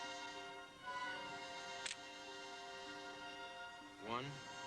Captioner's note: cocks gun